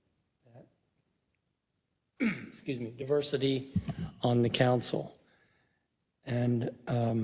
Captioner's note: cough